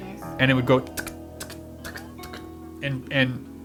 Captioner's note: makes clicking sounds